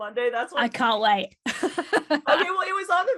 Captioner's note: laughs